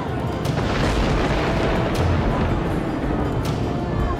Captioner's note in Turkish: Gök gürültüsü efekti